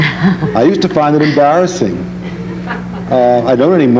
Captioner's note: laughs; audience laughing